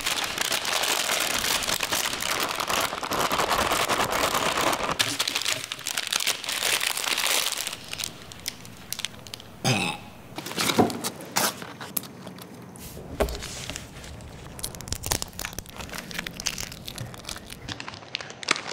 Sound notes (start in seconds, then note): 9.6 loud burp; 12.9 wrappers crinkling